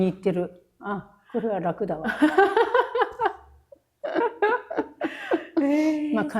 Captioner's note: laughing